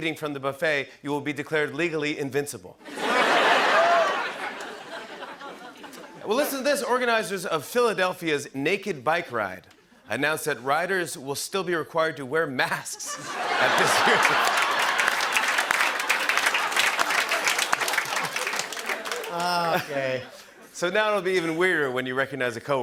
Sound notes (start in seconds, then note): 14.6 laughter and applause